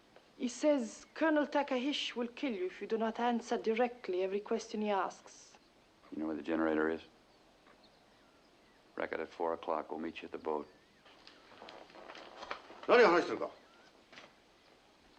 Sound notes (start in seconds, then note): 12.6 speaking japanese